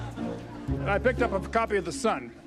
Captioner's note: audience laughing